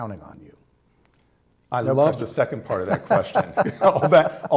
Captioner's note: laughter